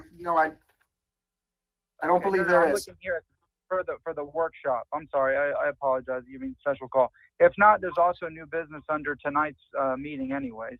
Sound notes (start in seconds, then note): 7.6 ~audio distortion~